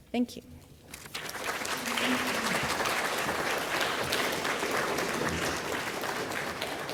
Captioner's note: applause